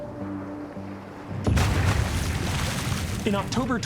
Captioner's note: water splashing and bubbling